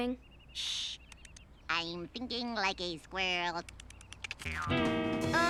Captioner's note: squirrel noises